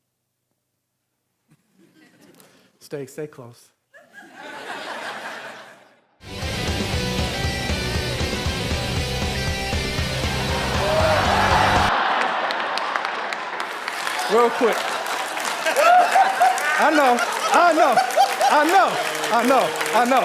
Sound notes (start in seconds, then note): 1.8 audience laughing; 4.0 audience laughing; 6.3 upbeat music; 11.5 audience laughing; 15.8 audience clapping